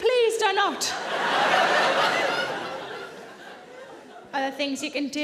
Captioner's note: audience laughing